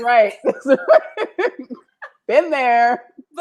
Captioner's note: laughter